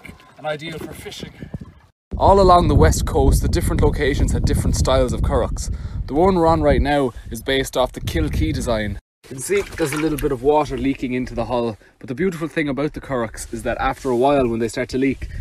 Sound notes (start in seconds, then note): none